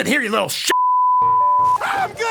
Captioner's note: beep